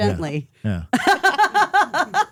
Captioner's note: laughing